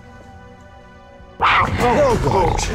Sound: jaguar growls

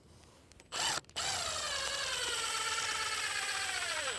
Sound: drill whirs

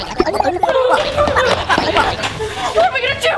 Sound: germs gibbering; sisters gasping

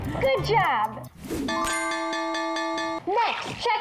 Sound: bell dings

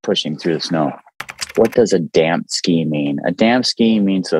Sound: keyboard clicking

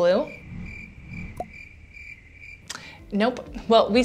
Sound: crickets chirp

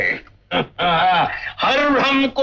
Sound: chuckles

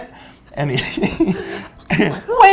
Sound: laughs

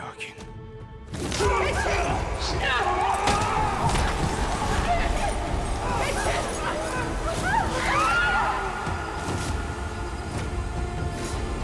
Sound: Bağırma sesleri; Müzik - Gerilim

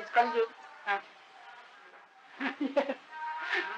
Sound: laughter

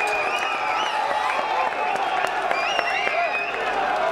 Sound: bell ringing; applause

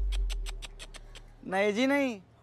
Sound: clicks tongue

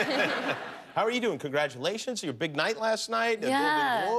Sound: laughter

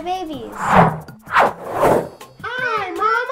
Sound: whooshing

